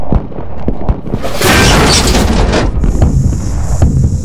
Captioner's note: metal crash